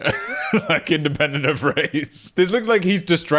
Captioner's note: laughing